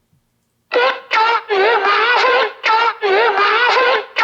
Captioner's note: distorted vocals